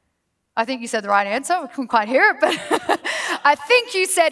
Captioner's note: laughs